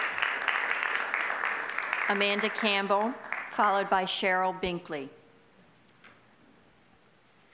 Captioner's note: applause